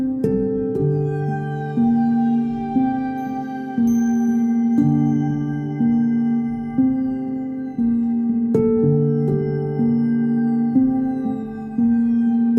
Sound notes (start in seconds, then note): none